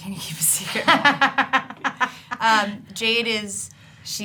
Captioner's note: laughing